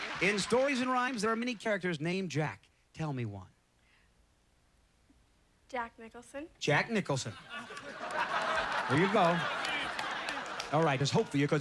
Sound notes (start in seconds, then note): 0.0 cheers and applause; 7.4 audience laughter